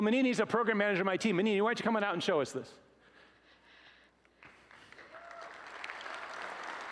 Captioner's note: applause